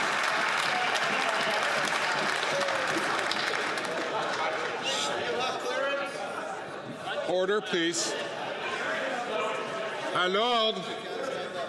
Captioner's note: some Applause